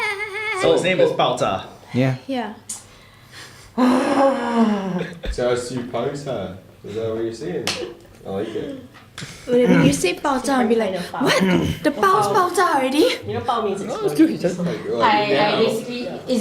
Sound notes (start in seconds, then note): 3.7 exasperated sigh